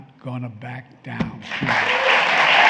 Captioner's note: applause